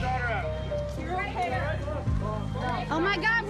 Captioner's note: indistinct chatter